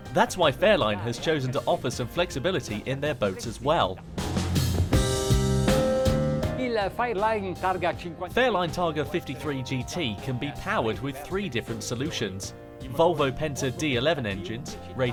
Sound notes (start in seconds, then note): 4.6 pleasant music; 6.6 speaking foreign language